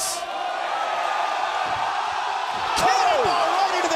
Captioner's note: crowd cheering